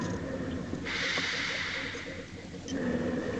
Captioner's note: steady breathing